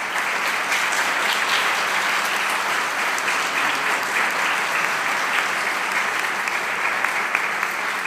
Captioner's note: clapping